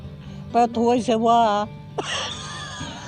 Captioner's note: laughs